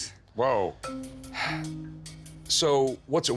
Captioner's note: sighs